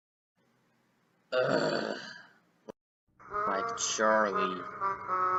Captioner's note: groans